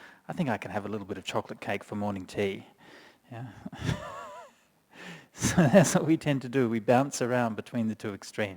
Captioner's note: chuckles